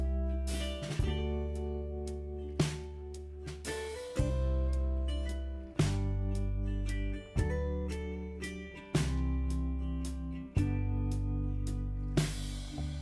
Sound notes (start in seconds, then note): 4.2 speaking Spanish